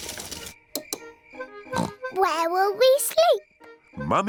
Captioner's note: oinks